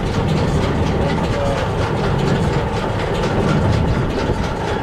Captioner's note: metal whirring